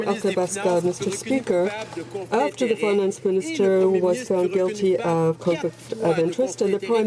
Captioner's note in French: voix de l'interprte